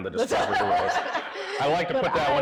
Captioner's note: everybody laughing